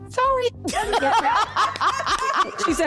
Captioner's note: laughter